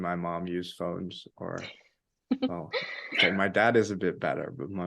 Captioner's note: laughing